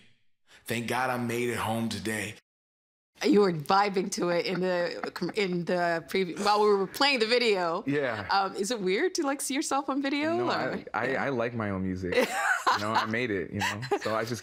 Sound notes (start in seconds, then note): 4.2 laughing; 13.6 laughing